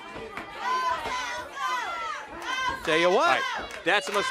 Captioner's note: crowd chatter